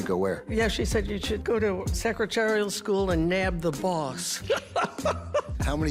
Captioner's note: laughs